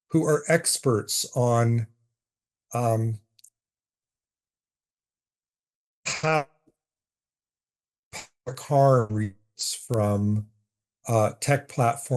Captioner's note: audio cut out